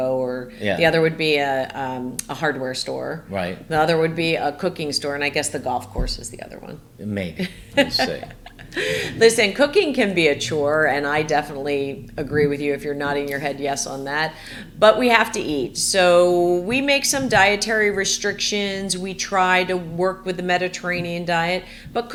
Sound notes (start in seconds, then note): 7.2 laughing